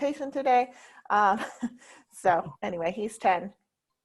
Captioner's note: chuckles